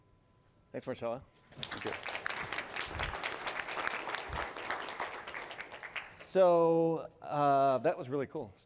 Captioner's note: applause